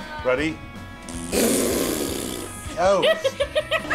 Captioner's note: students make raspberry sounds; laughter